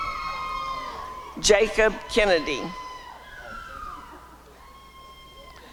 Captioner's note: applause and cheering